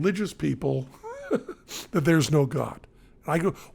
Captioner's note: chuckles